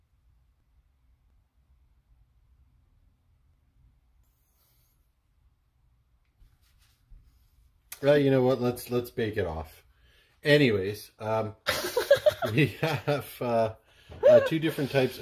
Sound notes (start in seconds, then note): 11.7 camera person laughing